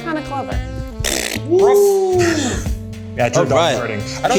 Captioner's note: blows raspberry